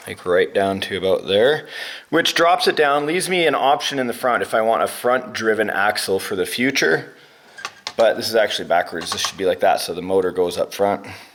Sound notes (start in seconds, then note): none